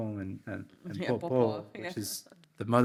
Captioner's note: speaks in foreign language